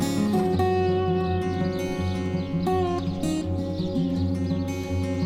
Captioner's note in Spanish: pajaros piando